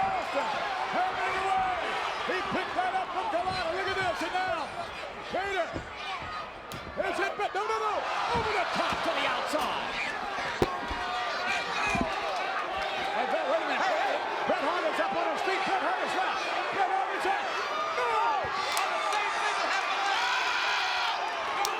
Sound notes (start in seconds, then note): 11.5 audience cheers; 17.3 speaks faintly; 18.7 audience cheers